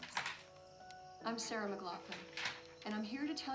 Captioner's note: television